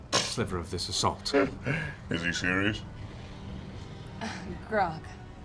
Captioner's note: scoffs and laughs